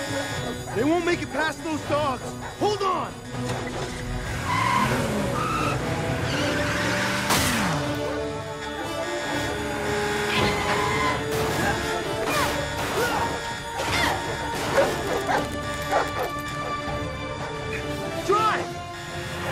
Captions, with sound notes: They won't make it past those dogs. Hold on! (Tires squealing) Drive!